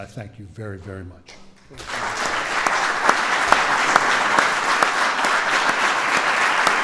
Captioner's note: applause